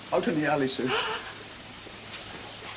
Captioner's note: gasps